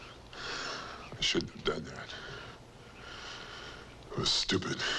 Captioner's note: sighs